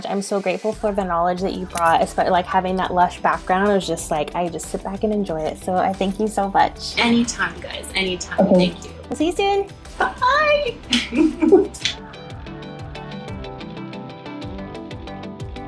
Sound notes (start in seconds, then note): 10.7 laughing; 13.0 bright music